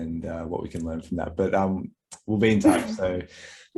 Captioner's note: laughs